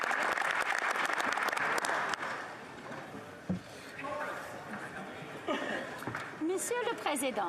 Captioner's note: some Applause